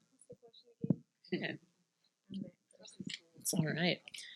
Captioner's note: participant murmuring